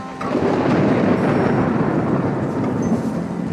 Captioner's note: thunder rumbling